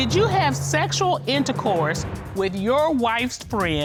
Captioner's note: reading